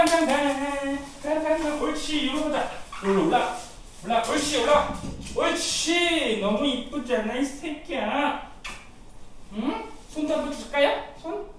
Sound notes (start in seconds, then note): 8.6 kiss